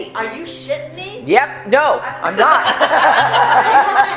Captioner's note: laughter